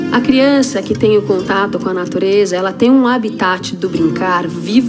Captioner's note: speaking foreign language